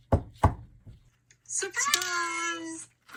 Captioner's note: friend knocking